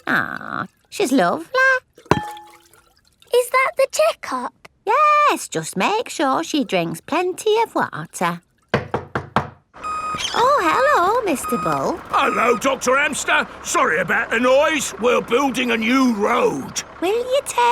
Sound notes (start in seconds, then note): 8.8 knocking at door